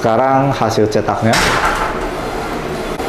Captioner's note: printer machine sound; falling things sound; printer machine sound